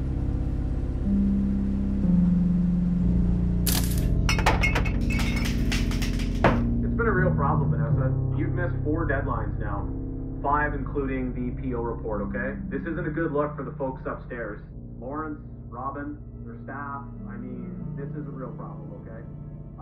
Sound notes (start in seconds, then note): 3.7 glass banging; 4.2 mug banging; 5.0 pills rattling; 5.2 blinds snapping shut